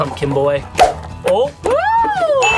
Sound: eyeball whooshing

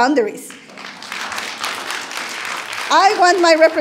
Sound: audience applauding

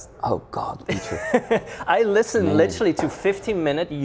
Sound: laughs

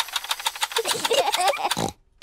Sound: both laugh

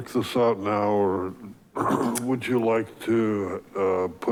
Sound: clears throat

